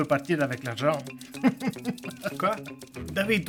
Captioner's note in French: rire sardonique